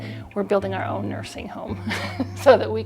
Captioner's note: laughs